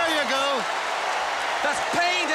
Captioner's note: crowd cheering